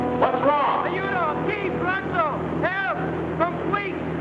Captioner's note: man yells in foreign language